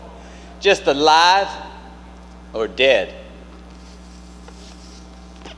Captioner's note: inhales